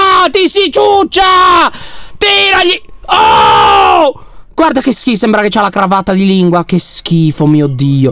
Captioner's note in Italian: urla